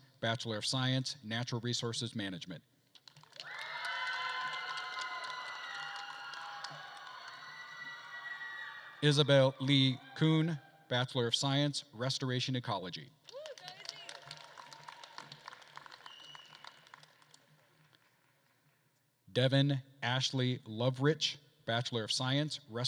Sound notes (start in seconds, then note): 3.0 attendees applauding and cheering; 13.3 attendees applauding and cheering; 16.0 attendee whistling